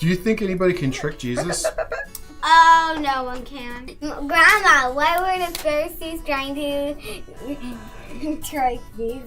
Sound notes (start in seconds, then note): 0.9 laughs